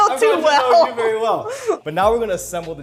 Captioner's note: laughing